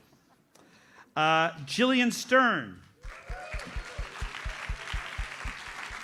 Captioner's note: audience applauds